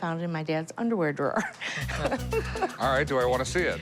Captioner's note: laughing